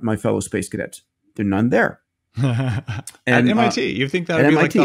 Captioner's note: laughing